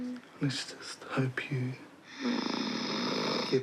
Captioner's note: snores